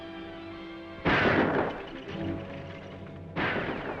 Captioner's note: guns firing; dramatic music